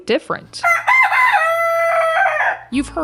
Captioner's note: rooster crowing